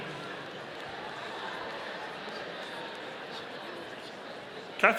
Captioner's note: audience applauding